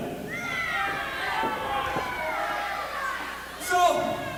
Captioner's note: crowd boos and yells